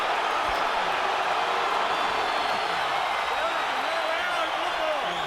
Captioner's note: crowd cheering